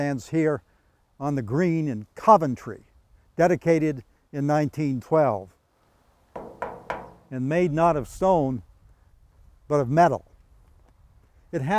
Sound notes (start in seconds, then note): 6.3 knocks